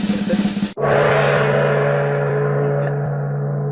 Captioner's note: drum roll; gong